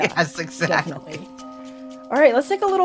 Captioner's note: laughs